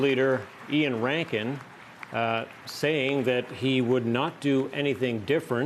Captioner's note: cheers and Applause